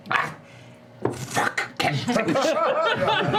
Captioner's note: devilish voice; laughter